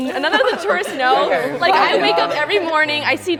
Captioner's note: students groaning and laughing